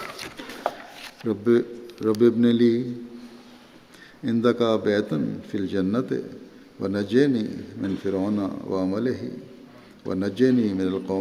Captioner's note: Arabic